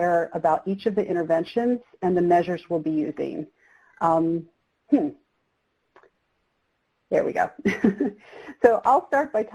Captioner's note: chuckles